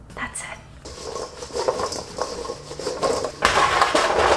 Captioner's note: jingling sound